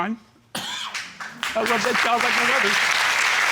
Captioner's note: audience applauding